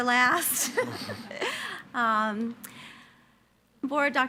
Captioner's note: everyone laughing